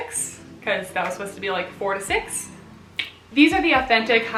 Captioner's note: tongue clicks